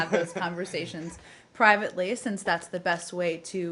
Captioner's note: laughter